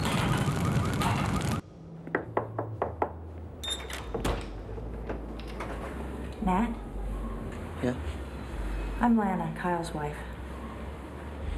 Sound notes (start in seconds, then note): 2.1 knocking on door